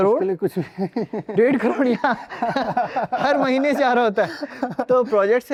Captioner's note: laughs